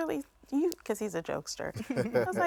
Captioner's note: man laughing